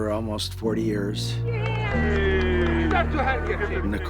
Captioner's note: cheering, clamoring